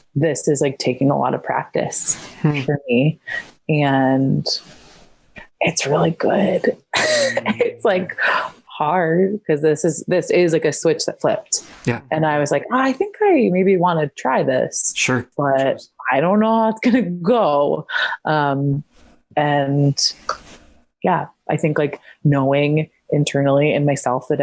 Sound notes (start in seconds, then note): 6.9 chuckles